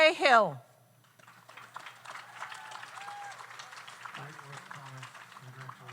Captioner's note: audience applauds; audience cheers